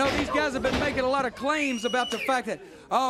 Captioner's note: crowd cheering